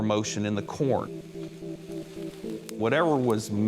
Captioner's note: rustling